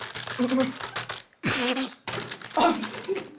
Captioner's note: calculator clicking sound; sniffling sound